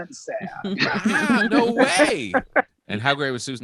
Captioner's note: all laughing